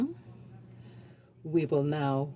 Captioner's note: speaking French